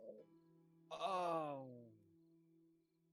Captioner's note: groan